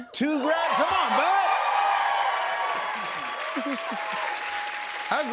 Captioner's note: cheers and applause